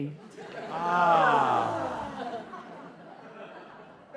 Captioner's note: ahhh